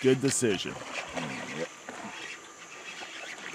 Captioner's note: reel cranking; rod whipping